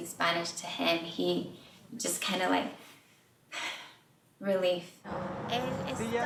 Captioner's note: sighs; both speaking in Spanish